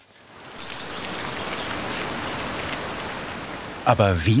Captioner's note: birdsong